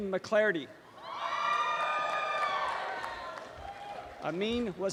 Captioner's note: applause and cheering